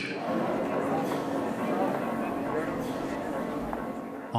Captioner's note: background talking